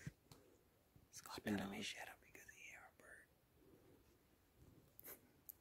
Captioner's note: whispering